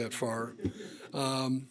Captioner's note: laughter